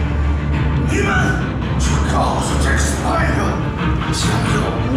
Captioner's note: speaking Chinese